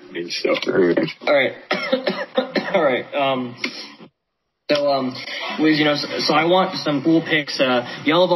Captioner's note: coughing